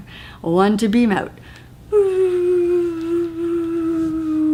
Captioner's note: whoooo